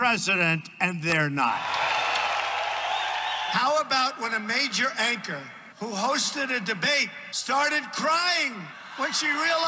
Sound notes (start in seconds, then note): 1.4 cheering